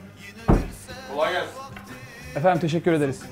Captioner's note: door opening